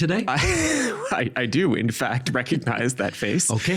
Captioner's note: laughing